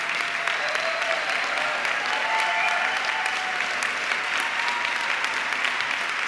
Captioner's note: audience cheering and clapping